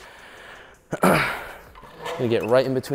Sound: throat clearing

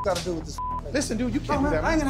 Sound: beep

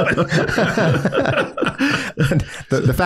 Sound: group laughs

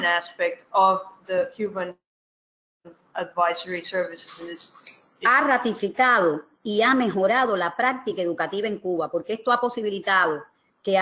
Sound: speaking another language

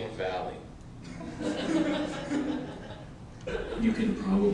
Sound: laughter

